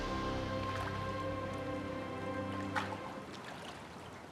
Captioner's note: triumphant music; water splashing